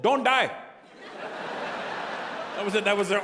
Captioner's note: audience laughing